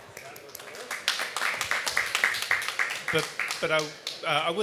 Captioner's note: applause